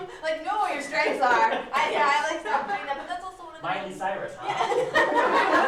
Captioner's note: laughs; laughter